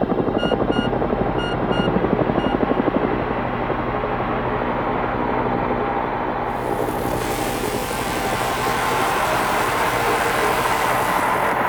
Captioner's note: helicopter intensifies